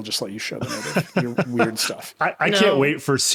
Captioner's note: laughing